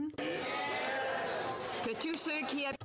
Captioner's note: speaking French